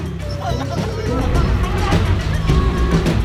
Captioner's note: yelling